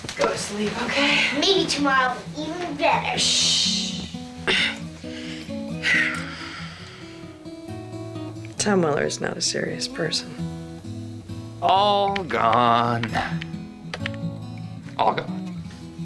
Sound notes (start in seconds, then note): 4.4 clears throat; 7.0 sighs